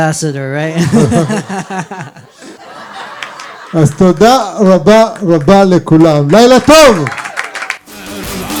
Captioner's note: laughter